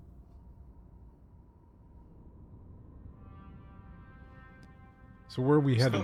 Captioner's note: silence